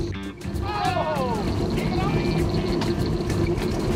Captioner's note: cheering